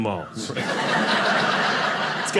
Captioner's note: audience laughing